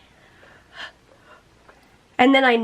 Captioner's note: panting